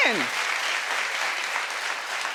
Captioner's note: audience applauding